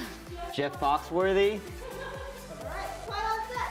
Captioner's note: laughter from cast and crew